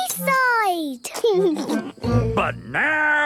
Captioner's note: laughing